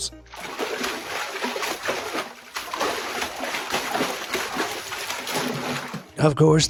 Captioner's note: water swishes